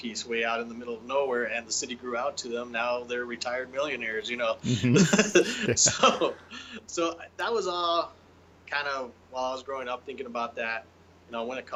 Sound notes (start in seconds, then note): 4.6 both chuckling